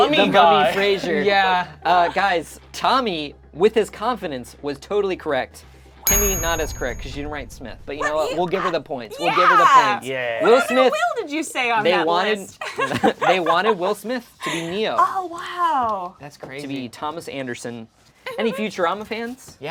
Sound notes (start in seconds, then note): 10.1 overlapping chattering